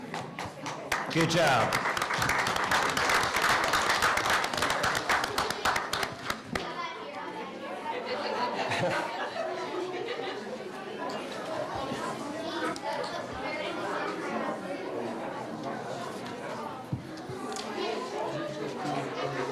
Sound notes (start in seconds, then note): 0.1 applause; 8.8 people chattering